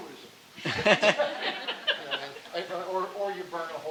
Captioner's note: audience laughing